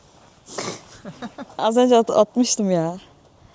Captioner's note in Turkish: homurdanır